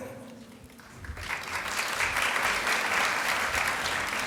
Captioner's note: applause